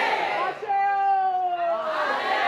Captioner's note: speaking Foreign Language